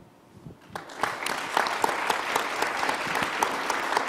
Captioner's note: crowd applauding